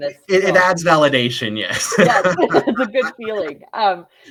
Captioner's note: both laugh